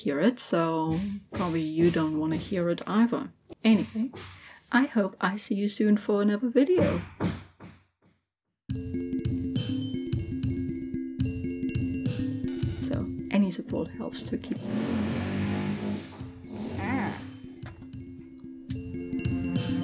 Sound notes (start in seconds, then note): 3.3 loud hammering; 6.9 more hammering; 14.5 loud drilling noise followed by annoyed noises